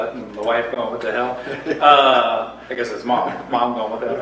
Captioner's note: laughs